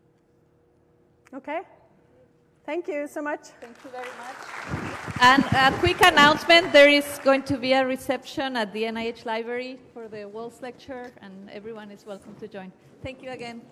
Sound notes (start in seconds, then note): 7.3 applause